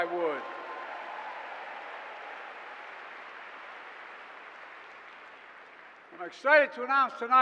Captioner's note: applause